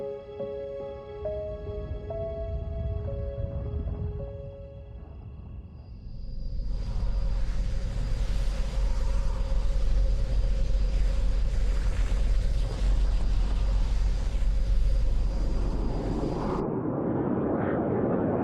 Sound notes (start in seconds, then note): 1.5 thunder rumbling; 15.2 plane whooshing